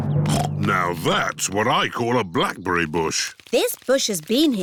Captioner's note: snorts